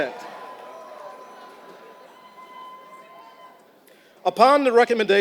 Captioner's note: applause